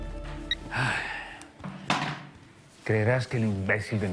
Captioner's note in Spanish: Bip